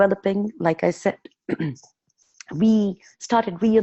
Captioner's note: clearing throat